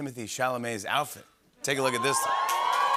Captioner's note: cheers and applause